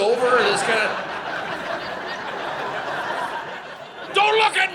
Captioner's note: audience laughing